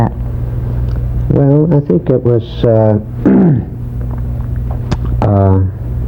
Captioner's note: clears throat